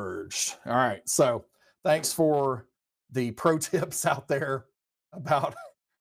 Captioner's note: laughs